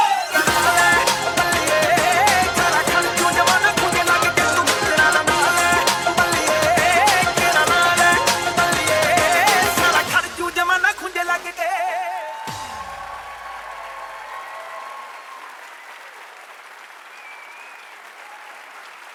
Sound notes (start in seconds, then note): 11.5 audience cheering and applauding